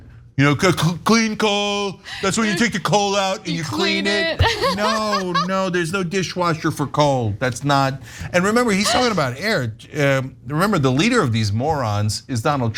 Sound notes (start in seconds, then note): 3.3 laugh